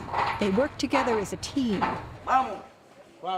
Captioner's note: speaking spanish